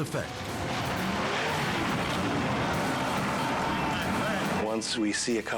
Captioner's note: boat crashes